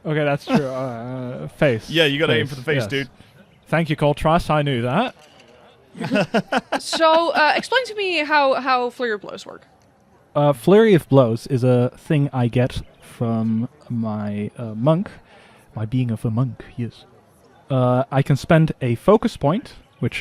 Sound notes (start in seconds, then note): 5.9 laughter